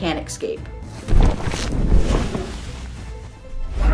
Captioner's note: rustling